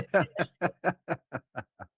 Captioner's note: laughing